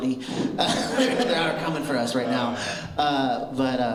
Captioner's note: laughter